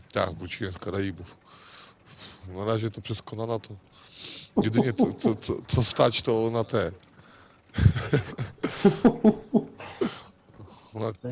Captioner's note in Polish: śmiech